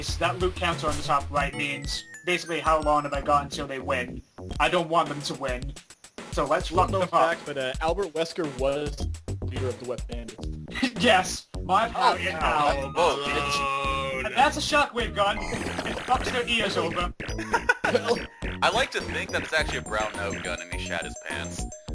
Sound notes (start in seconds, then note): 17.3 laughs